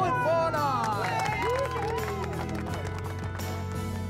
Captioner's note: cheering